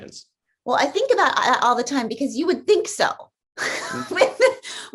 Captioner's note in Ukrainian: сміється